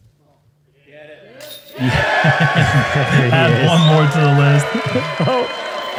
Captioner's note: cheering; laughter